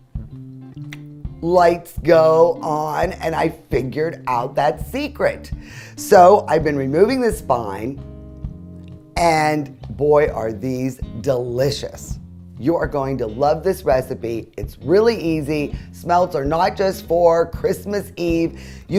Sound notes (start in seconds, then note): 1.0 clicks